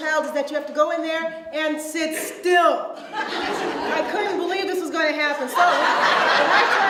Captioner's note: audience laughs